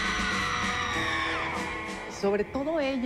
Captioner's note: concert crowd noise